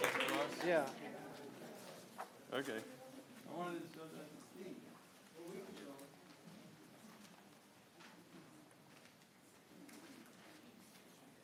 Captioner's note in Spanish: aplausos